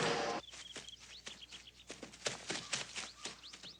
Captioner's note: birds chirping